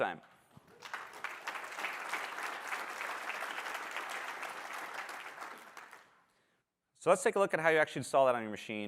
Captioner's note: applause